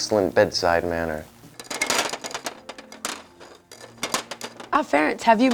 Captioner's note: glasses clatter